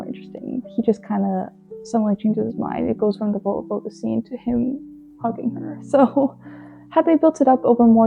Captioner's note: laughs